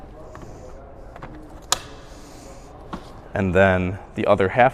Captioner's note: adapter clicks